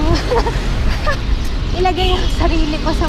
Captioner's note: laughs